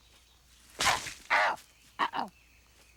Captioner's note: papayas squish